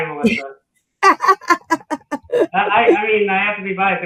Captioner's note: laughter